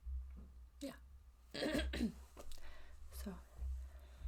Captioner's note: clears-throat